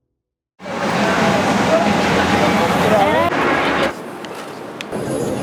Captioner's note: street noises